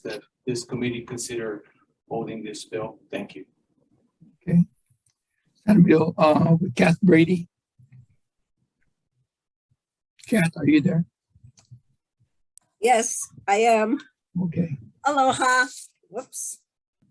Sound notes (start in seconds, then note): 5.9 voice muffling